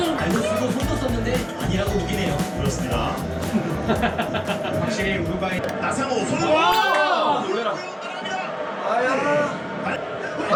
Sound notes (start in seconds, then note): 3.5 laughs